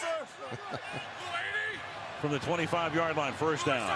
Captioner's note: chuckles